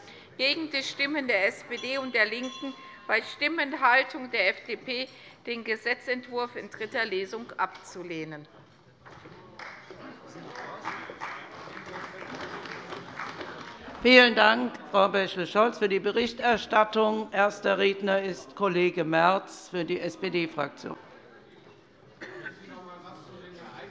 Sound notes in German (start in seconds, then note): 9.5 Beifall bei der CDU